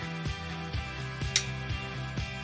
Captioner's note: click Noise